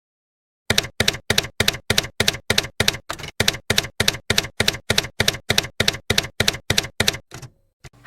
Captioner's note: typewriter keys clacking